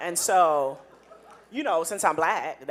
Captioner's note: audience laughing